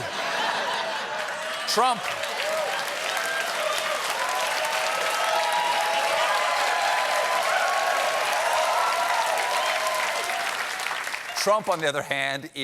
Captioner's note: cheers and applause